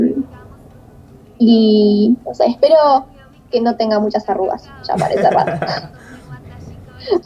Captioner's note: laughs